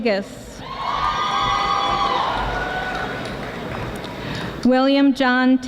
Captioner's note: audience applauding